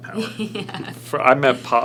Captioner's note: laughs